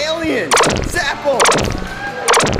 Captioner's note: lazers fire